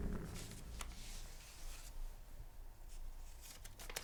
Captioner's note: crinkling paper